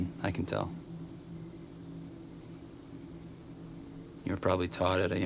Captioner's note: crickets chirping